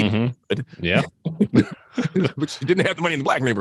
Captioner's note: both laugh